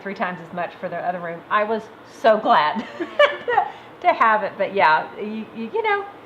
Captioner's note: laughs